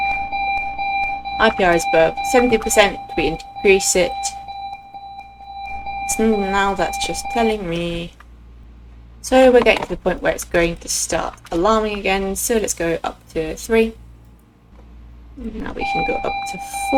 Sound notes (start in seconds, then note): 4.0 alarm beeping; 7.7 alarm silenced; 15.4 alarm beeping